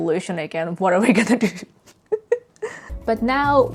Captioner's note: laughs